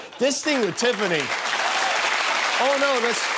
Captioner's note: applause